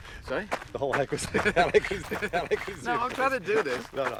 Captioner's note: laughs